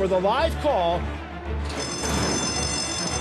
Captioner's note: bell rings